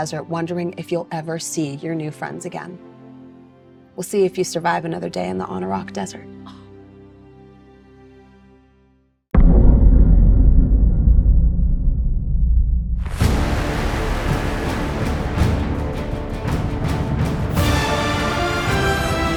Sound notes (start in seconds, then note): 9.9 speaks faintly